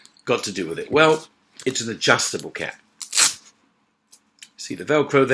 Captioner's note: velcro snapping